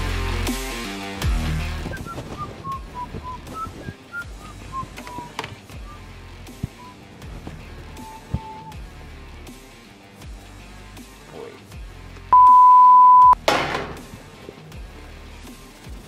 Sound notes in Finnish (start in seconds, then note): 12.3 piip!